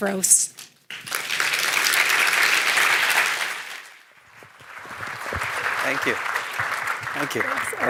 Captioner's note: applause